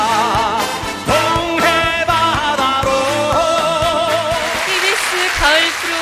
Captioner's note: heavy raining